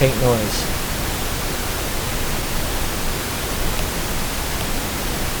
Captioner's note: pink noise crackling